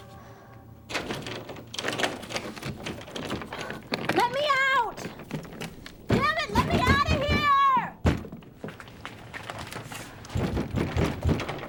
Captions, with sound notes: (door rattling) - Let me out! Damn it, let me out of here!